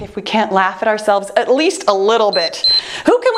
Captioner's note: timer beeps